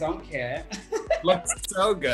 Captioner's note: laughter